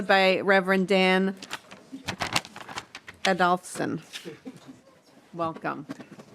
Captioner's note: laughing